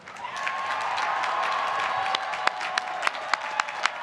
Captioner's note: applause